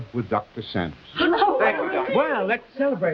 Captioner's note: everyone cheering